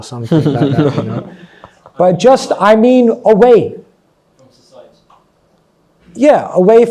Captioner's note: laughs